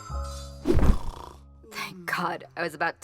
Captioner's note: Indus snores